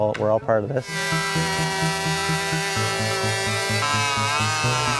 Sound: chainsaw roaring

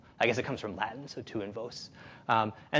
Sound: speaks in foreign language

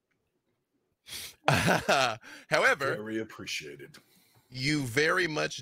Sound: laughs

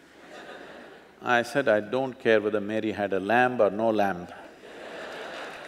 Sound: few Laugh; laughter

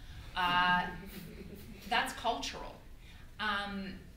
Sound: audience laughter

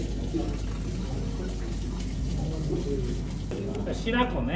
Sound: and with running tap water sound in background 😅

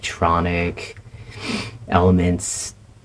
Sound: sniff

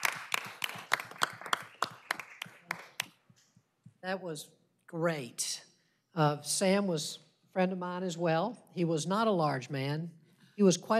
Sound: applause

